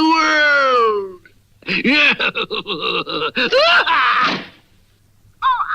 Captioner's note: Simon Bar Sinister Laughs & Closes the Door